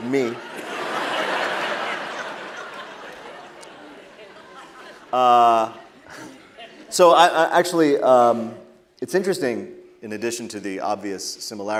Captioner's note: laughter